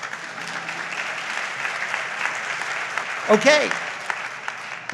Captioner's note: audience applauds